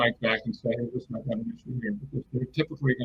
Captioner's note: distortion muffles speaker